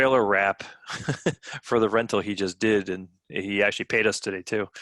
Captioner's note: chuckling